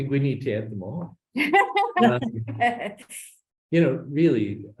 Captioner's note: laughs